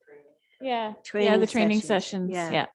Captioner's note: murmurs